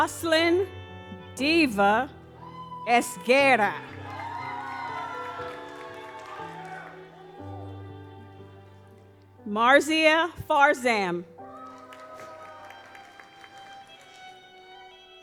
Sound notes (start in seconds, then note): 4.4 audience cheers; 11.4 audience applauds